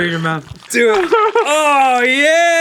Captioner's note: whimpering